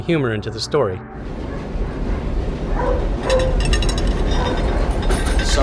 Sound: rumbling

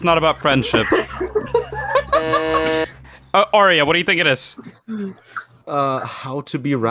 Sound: laughing; buzzes

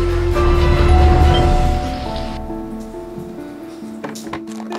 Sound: doorbell ringing

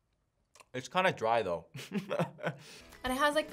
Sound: laughs

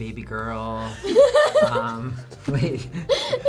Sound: chuckles; laughs

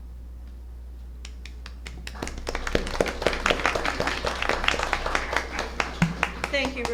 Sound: applause

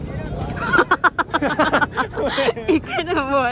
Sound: so much laughter!

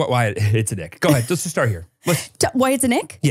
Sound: laughs

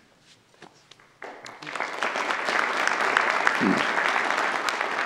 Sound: audience applauds

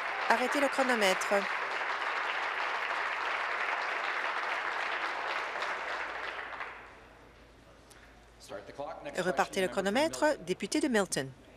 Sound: applause

